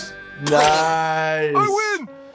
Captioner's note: sucking noises; fork snapping free